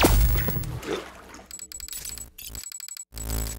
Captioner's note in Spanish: ruido estático